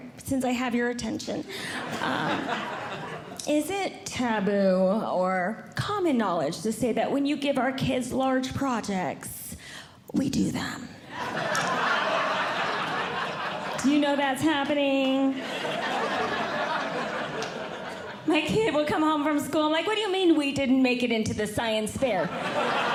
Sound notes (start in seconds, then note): 11.1 audience Laughing; 22.2 audience Laughing